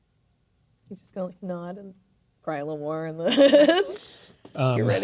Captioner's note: laughing